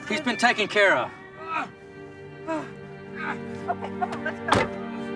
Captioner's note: Shanks grunting